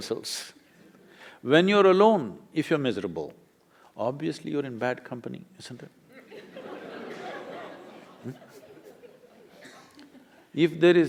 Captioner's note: laughter